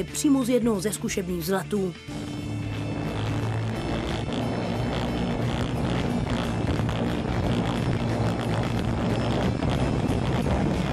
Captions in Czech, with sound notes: přímo z jednoho ze zkušebních vzletů *hluk elektromotorů*